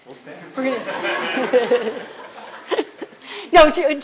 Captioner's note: laughter